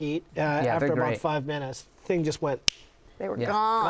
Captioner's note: snapping